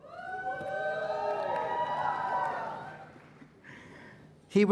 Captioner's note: applause